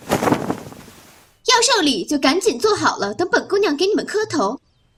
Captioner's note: approaching footsteps